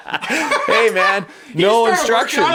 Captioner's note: laughing